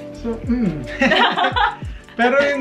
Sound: laughing

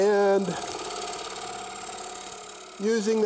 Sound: chisel scrapes

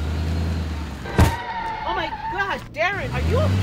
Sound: thud, skidding

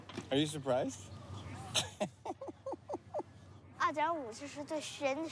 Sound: laughs

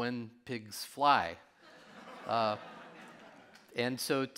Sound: audience laughing

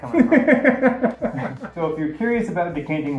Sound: laughing

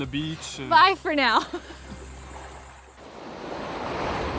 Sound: laughs

